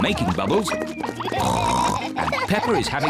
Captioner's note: oinks